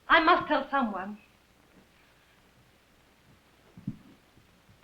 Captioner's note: none